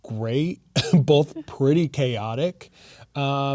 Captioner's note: chuckles